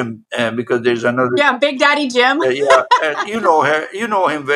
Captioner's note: laugh